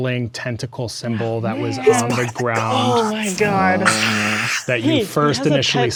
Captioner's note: players reacting